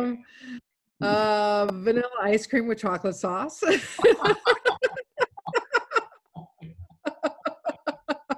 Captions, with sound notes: - Vanilla ice cream with chocolate sauce. (laughing)